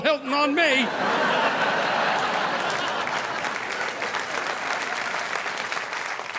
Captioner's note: audience laughing; audience applauding